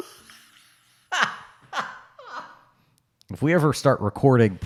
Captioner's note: laughing